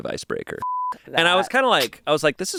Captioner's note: beep